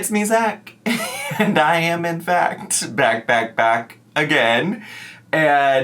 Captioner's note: laughs